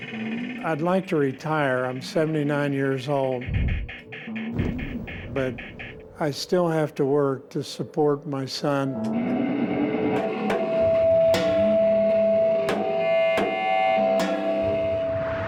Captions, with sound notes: I'd like to retire. I'm 79 years old. But I still have to work to support my son. [feedback]